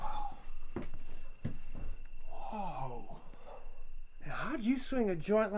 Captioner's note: sighs